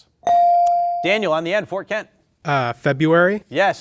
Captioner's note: bell dings